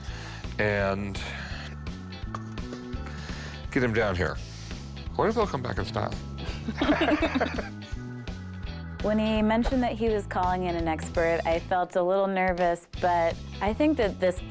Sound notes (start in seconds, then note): 6.4 both laugh